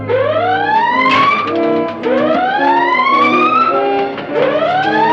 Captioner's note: alarm blaring